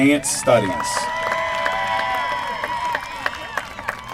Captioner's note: applause